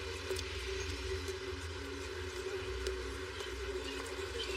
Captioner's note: fooootsteps approroaching